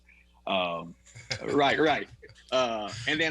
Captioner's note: laughs